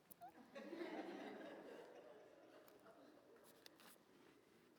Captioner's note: audience laughs